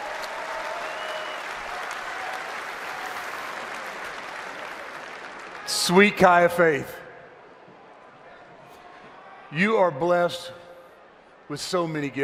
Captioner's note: applause